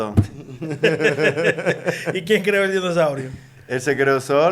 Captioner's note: laughs